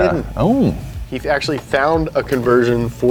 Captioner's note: awes